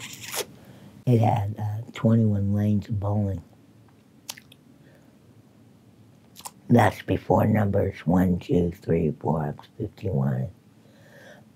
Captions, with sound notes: (sucks loudly) It had 21 lanes of bowling. (smacking lips) That's before numbers one, two, three, four, 51.